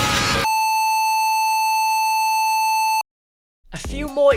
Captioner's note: BSOD sound